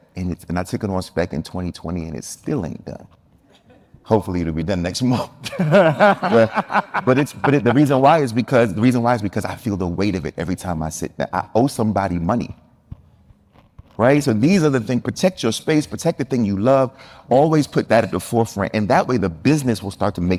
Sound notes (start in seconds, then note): 5.4 group laughing